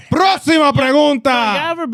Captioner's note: speaking In Foreign Language